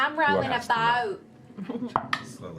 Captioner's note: exaggerated Southern accent